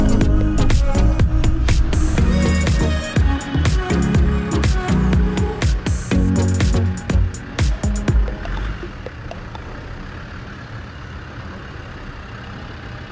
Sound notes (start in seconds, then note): 7.7 vehicle engine hums